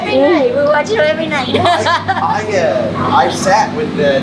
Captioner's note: laughs